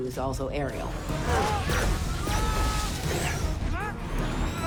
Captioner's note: yelling